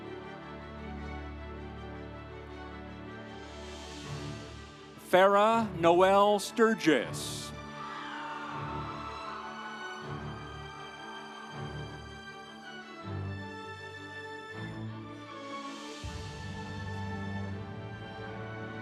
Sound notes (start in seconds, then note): 7.5 audience cheering; 8.1 instrumental music